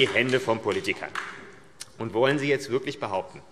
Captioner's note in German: Beifall AfD